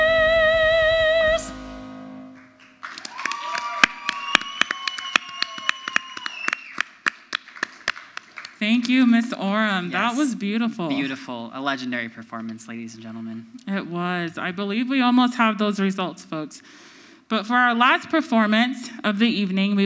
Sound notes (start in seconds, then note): 2.3 audience cheers; 2.4 audience applauds